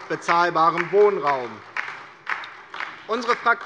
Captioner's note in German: Beifall DIE LINKE